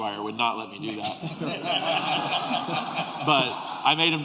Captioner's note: laughter